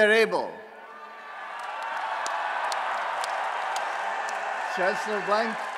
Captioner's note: applause and Cheering